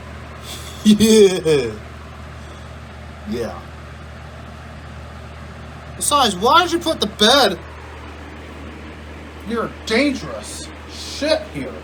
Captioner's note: Ella laughs